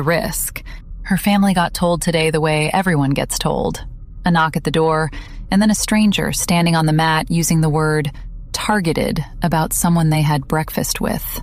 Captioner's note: breath